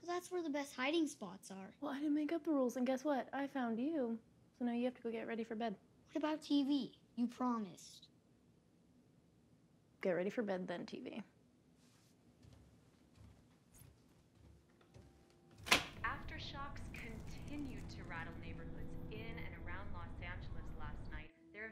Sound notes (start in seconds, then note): 15.6 lock clicks